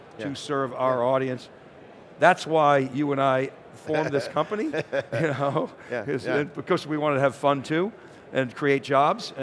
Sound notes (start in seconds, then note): 4.3 laughs